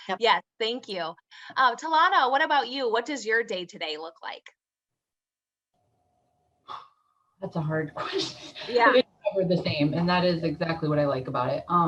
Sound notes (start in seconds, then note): 6.7 exhales; 8.3 chuckles